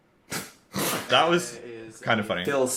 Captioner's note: young laugh